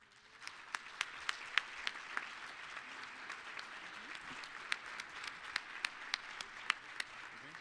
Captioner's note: applause